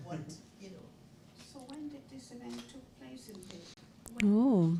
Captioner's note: chatter